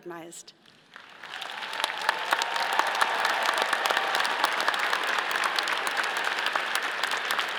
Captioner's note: all applauding; all cheering